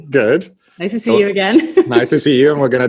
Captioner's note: laughs